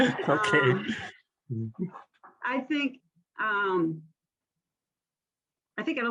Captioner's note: chuckles